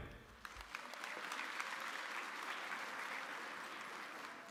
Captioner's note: audience applauding